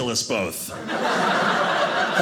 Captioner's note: audience laughing